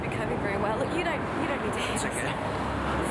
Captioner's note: faintly speaking